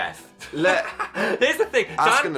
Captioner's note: Phil laughing